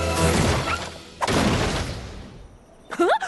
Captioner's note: crash